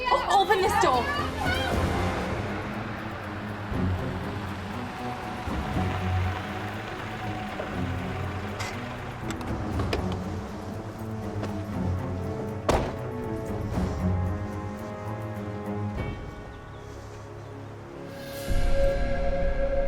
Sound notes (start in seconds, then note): 9.7 handbrake clicks